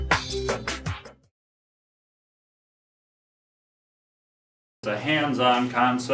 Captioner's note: silence